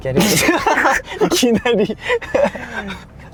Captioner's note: laughs